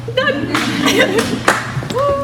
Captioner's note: audience chuckles